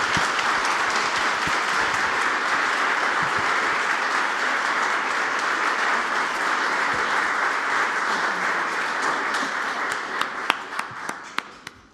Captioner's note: applause